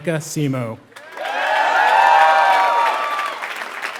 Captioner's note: applause